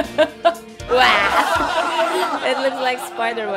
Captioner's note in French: rire